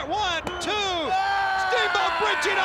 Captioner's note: crowd chatter